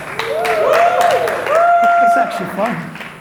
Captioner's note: audience applauds, cheers